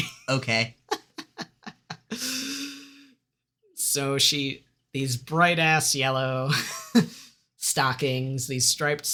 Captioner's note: exasperated laughter